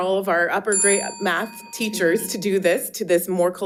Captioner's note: bell dinging